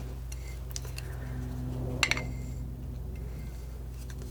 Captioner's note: scratching